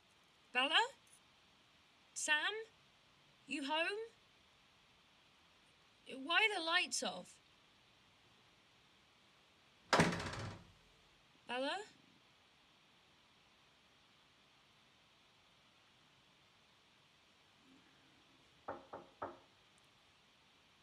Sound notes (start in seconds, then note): 9.9 door slams; 18.6 knocking on door